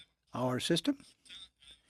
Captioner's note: speaking in french